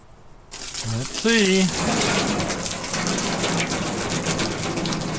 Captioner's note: water spraying, splashing